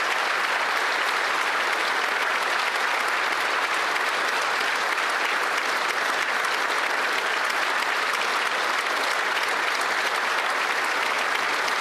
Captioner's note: some Applause